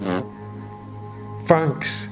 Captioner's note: farts